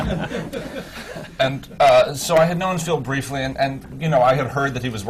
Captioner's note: laughter